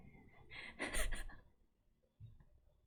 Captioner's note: laughs